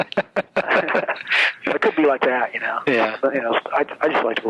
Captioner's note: laughs